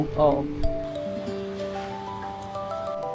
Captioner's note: Cantonese